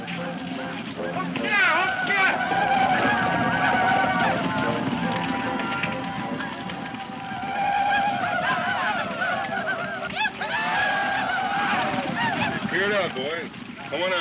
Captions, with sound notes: (man speaks in a foreign language) (men shouting) - Cleared out boys, c'mon out.